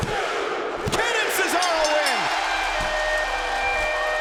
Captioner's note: bell rings; siren blares